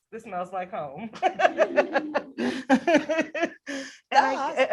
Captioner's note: laughs